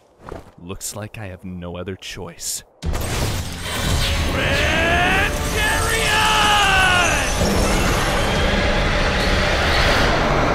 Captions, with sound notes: Looks like I have no other choice. GRAAAND CHARIOOOOT! [Grand Chariot roars]